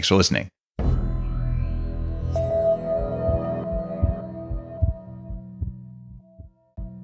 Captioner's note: dramatic ambient music; heart beating